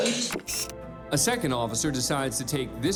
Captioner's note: camera click